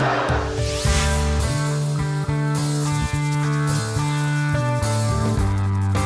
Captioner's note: rock music; laughing